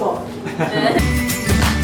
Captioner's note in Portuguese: Risadas